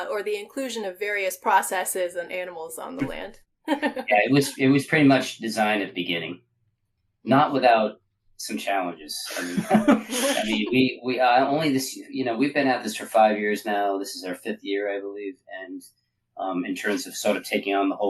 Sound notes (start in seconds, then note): 3.7 laughing; 9.2 laughing